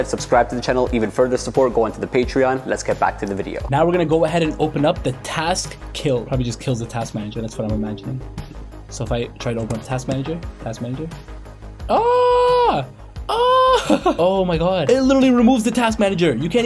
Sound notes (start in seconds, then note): 8.3 computer chimes; 13.6 laughs